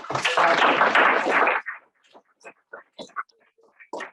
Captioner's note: audience applauds